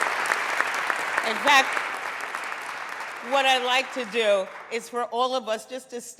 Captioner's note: applause